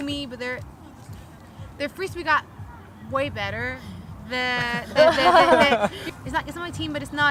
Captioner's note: laughter